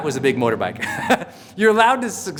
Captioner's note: laughs